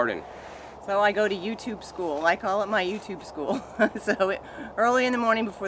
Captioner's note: laughing